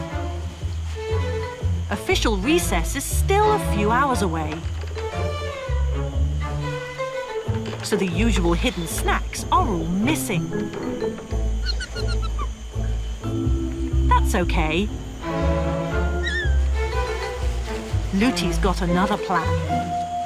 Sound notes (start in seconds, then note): 0.1 comedic music; 4.8 comedic music; 10.3 Luthy squeaking; 15.8 Luthy squeaking; 16.4 comedic music